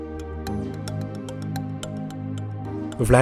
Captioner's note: voiceover